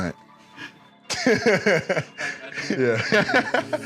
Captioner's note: laughs